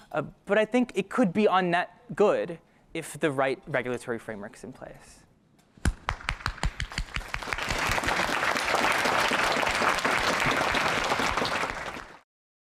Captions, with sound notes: But I think it could be on-net good, if the right regulatory framework is in place. [APPLAUSE]